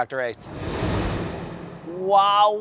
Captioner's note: air whooshing